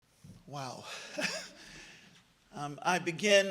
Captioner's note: laughs